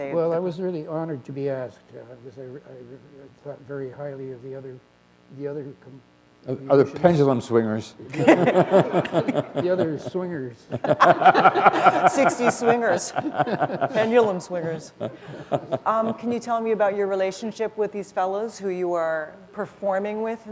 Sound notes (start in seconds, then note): 8.1 laughter